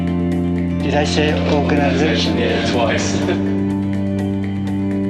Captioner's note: all laugh